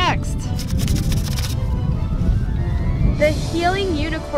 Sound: fingers scratching

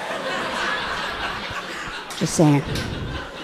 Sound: audience laughing amusingly

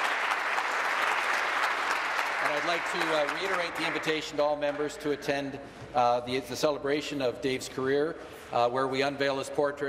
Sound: applause

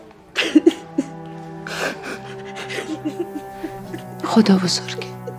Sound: crying

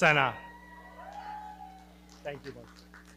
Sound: audience cheering; audience clapping

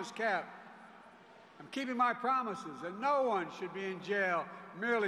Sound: cheers and applause

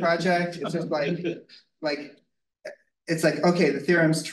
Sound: group chuckles

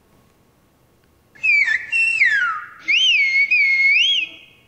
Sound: whistling

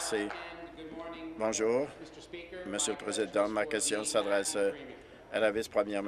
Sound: applause

